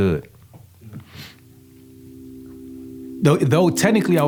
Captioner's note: sniffs